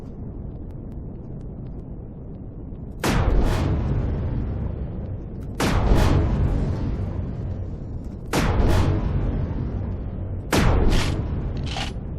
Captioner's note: explosion; reloading